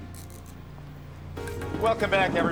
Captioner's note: handcuffs unclicking